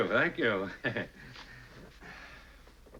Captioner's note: chuckles